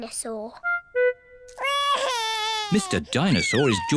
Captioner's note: wails